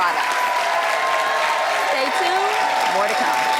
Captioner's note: audience cheers